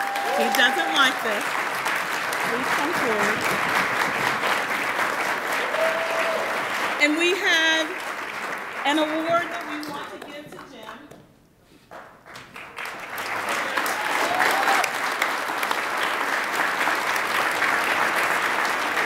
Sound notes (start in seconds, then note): 4.3 attendees applauding; 11.9 attendees applaud